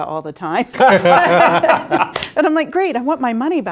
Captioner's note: laughing